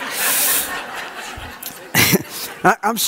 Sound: audience laughs

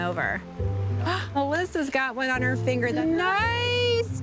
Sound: gasps

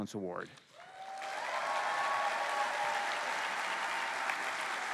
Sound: cheering

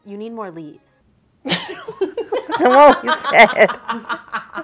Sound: laughing

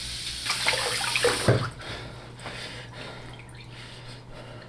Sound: tap running; man panting

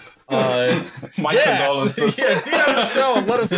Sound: laughs

